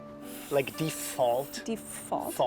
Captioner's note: blowing sound